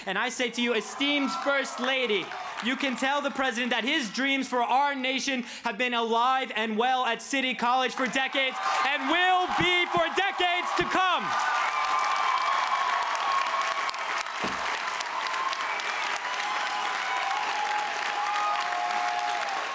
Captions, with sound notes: And I say to you, esteemed First Lady, you can tell the President that his dreams for our nation have been alive and well at City College for decades, and will be for decades to come. (crowd cheers)